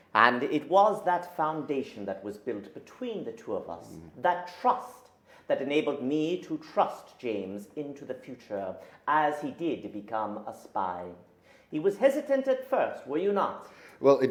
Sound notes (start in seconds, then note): none